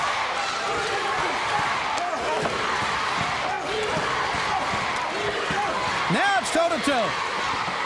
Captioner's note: crowd cheering